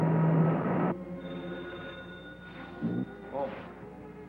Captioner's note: phone ringing